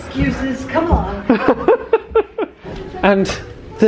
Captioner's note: laughing